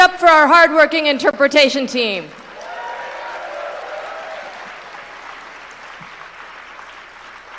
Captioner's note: cheering